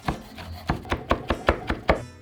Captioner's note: knife chopping